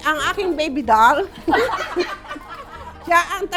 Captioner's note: laughs